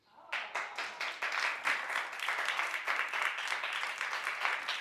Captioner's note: audience applauds